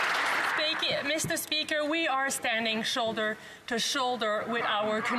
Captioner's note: some Applause